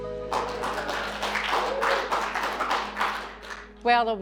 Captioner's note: students clapping